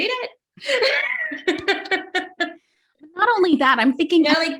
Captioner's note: chuckles